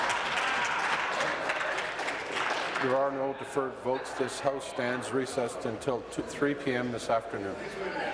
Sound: applause

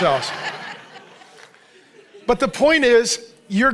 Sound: congregation laughing

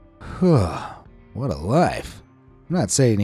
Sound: sighs

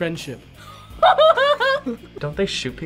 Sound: laughs

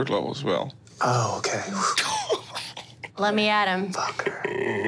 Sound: laughing

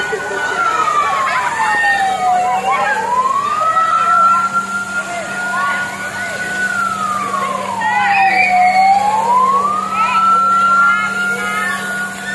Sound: clap

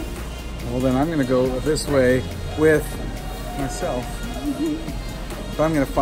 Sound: chuckling

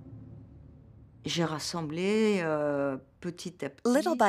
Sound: speaks french

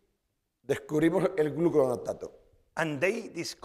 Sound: speaking spanish

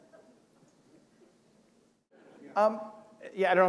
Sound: laughter

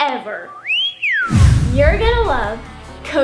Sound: whistling sound

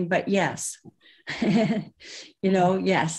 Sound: laughs

